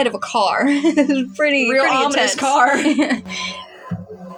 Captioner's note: snicker; laughing; ominous Music